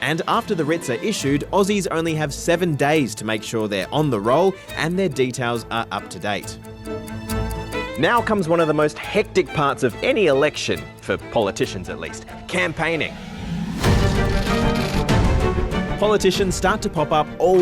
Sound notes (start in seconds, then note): none